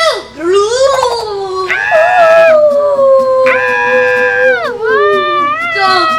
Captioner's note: booing; collective screaming